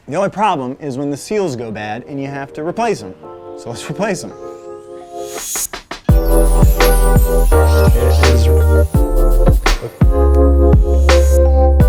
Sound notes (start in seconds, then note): 5.5 gentle music; 8.2 speaks faintly